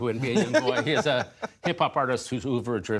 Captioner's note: laughter